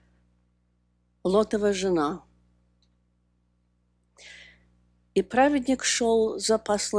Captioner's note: speaking russian